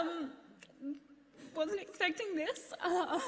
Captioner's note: laughs